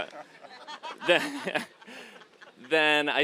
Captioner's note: audience laughing